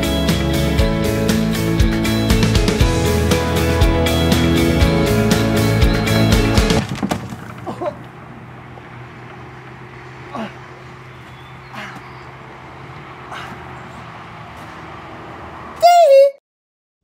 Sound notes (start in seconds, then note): 7.6 groans; 10.2 grunts